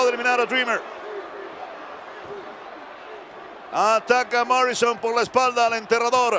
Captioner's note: applause